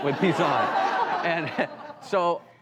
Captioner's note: audience laughs